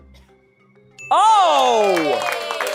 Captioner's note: tense music; bell dings; audience cheering